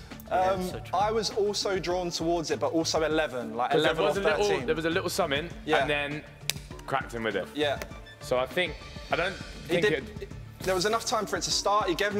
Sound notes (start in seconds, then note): 6.4 smacking